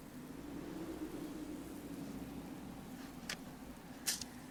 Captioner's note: wind blowing